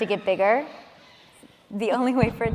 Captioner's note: baby squealing